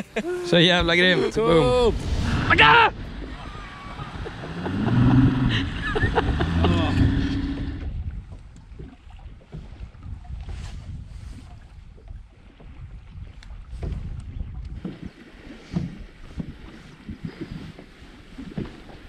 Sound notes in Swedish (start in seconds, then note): 3.4 Laughing